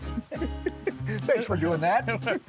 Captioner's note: both laugh cheerfully